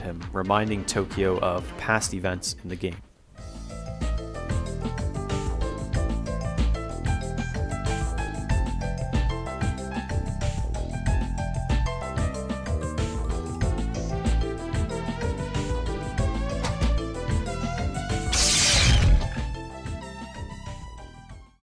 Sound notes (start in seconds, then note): 18.3 zap noise